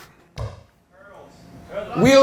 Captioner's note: mic bumps head